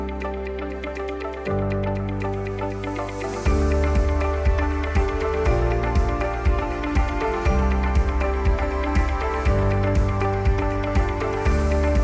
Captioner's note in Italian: Applauso